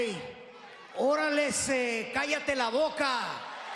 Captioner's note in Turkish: İspanyolca bir şeyler